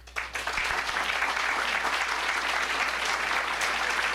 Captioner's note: applause